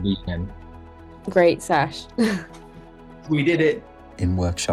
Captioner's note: chuckles